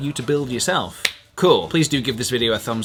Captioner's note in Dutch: klapt